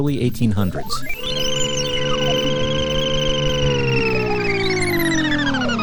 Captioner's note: machine whirring